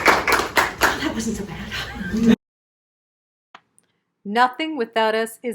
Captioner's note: applause